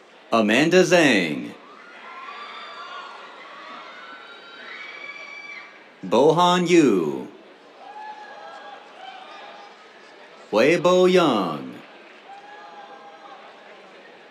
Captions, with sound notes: Amanda Zhang. [CHEERS] Bohan Yu. [CHEERS] Huibo Yang. [CHEERS]